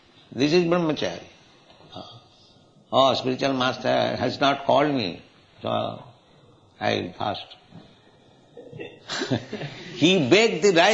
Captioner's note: laughter